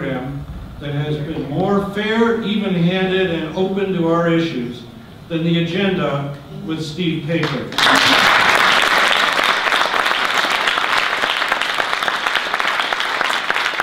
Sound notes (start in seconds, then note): 7.7 audience applause